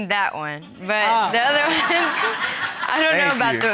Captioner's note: all laughing